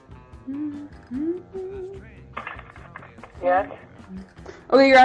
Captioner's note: humming